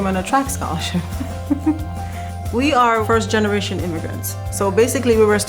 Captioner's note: laugh